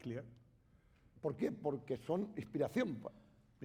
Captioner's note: speaking spanish